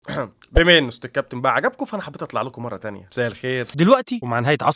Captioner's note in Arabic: تنحنُح